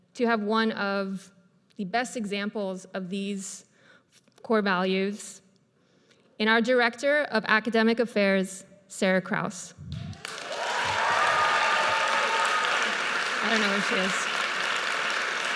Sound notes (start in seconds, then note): 10.0 audience cheers and applauds